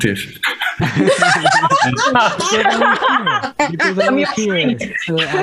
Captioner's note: risas